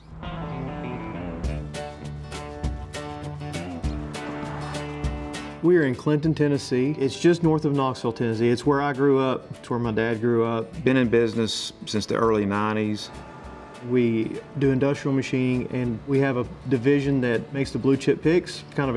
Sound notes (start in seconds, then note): 1.3 traffic droning; 1.3 upbeat music